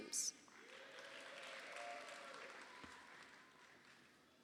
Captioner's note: audience applauding